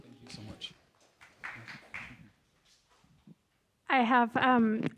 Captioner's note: audience applauding